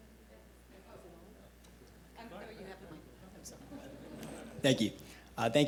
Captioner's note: audience chattering